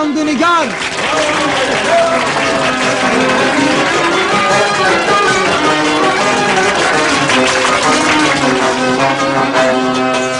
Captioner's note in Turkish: tüm salon alkişlamaktadir